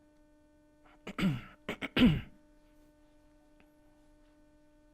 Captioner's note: clearing throat